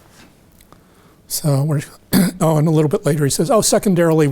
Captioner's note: clears throat